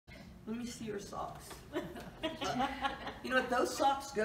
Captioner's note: audience chuckles